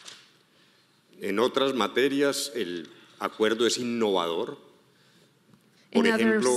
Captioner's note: speaking in foreign language